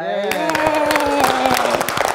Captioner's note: group claps